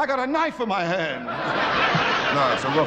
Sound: audience laughing

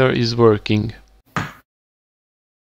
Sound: pop

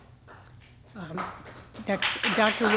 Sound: applause

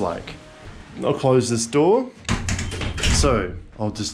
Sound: door closes

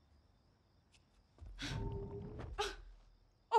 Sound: whooshing

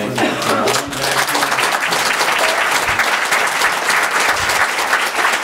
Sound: audience applauds

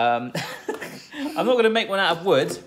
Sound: chuckling; laughing

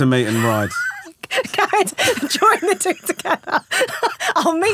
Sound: laughing

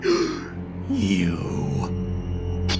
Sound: gasp

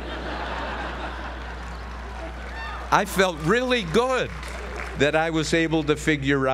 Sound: laugh

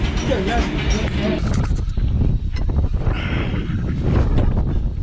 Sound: wind whooshing

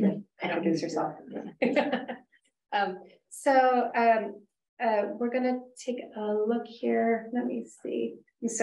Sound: chuckles

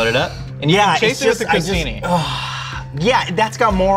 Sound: exhaling

